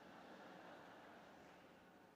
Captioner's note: laughter